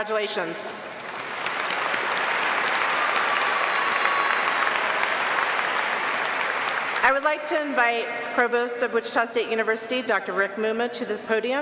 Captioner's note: applause